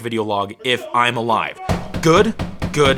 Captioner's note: muffled yelling